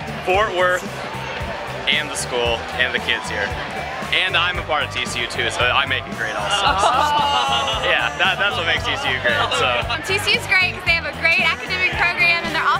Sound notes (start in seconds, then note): 6.5 laughter